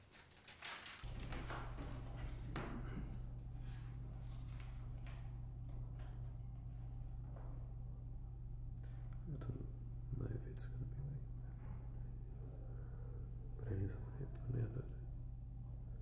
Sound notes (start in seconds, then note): 1.5 whispers of the casting director